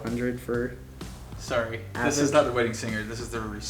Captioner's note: male Voice